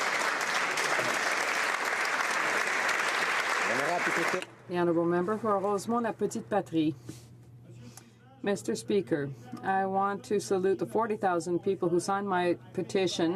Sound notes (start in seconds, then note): 3.0 applause